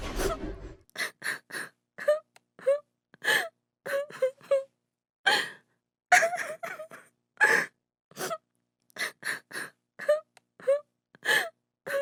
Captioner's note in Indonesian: Suara tangisan Rani